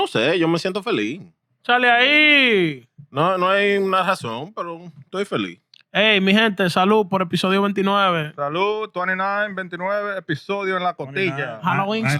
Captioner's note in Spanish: Hablando en idioma extranjero